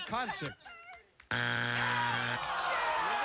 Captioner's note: buzzer